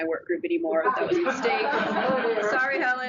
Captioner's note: audience laughs